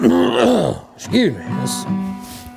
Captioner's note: clears throat